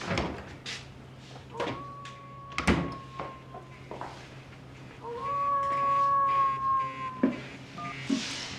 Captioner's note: phone Rings - Wolf Howl